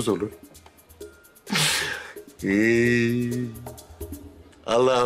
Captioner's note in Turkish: Ağlama sesi